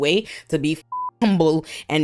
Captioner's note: beep